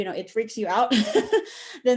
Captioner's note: chuckles